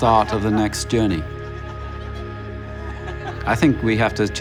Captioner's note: laughs